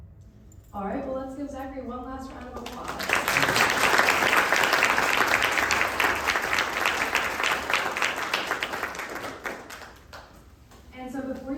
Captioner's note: applause